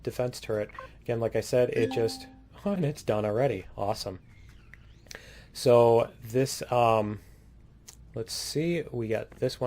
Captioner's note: ding